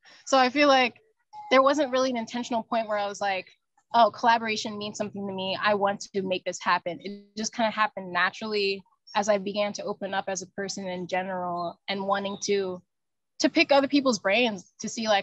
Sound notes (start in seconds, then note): none